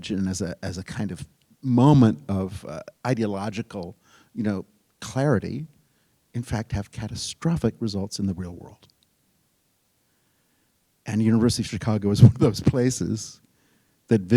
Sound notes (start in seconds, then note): none